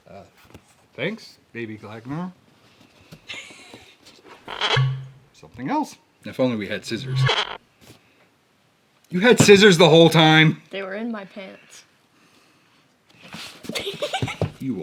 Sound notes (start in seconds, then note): 4.6 pop sound effect; 7.1 pop sound effect; 13.6 laughs